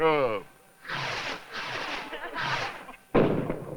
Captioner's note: scattered laughter